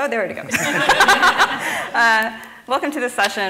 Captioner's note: laughing